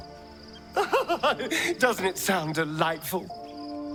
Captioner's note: laughing